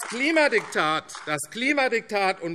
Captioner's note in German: Beifall AfD